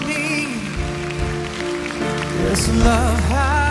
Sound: audience applause

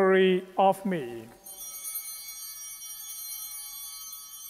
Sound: bell ringing

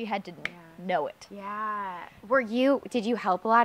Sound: snap

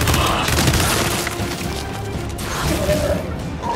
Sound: gunfire

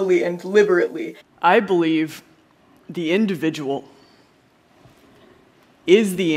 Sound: Elizabeth speaking, pausing between phrases

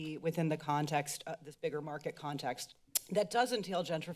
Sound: tongue clicks

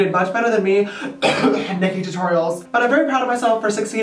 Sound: coughs

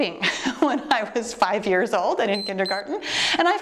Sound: timer beeps

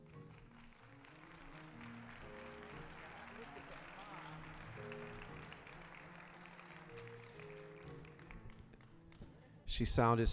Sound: applause

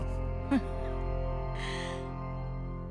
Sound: chuckles

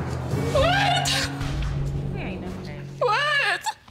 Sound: crying

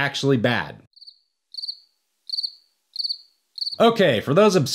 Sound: crickets Chirping

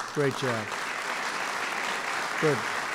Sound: applause

